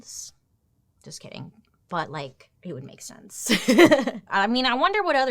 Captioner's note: laughs